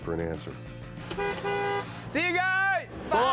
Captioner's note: honks horn